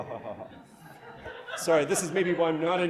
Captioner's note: crowd laughs sparingly